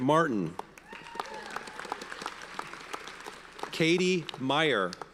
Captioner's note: audience cheers and applauds